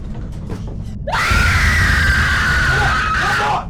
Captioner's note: Shelby screams